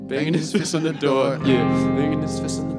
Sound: laughing

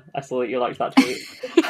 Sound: laughs

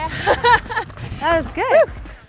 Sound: laughing

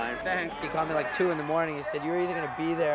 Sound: cheers and Applause

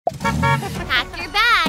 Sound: engine revving; horn honking

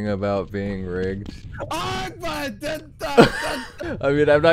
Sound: laughter

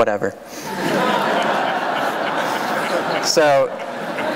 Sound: laughter

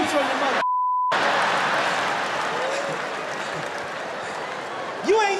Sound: applause

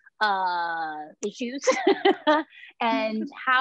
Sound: laughs

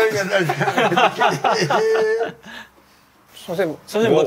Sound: giggling

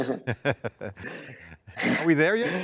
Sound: laughing

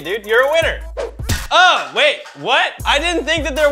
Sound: whooshing, thudding

